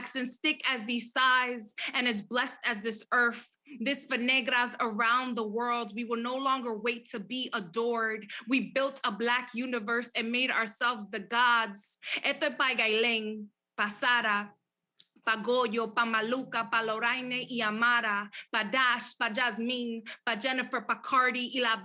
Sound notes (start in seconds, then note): 12.5 speaks Spanish